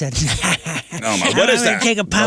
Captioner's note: laughs